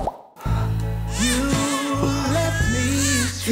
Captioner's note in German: Baby schreit